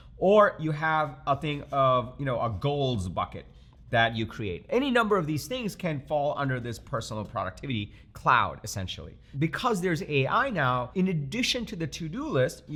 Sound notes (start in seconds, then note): none